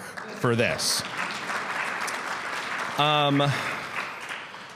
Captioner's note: audience clapping